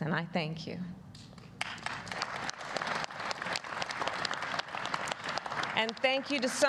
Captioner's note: applause